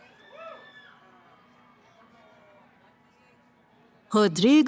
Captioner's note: cheering